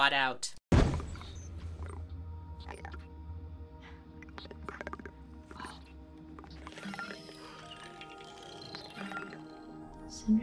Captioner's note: robotic sounds